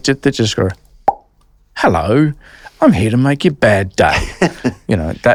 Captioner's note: popping Noise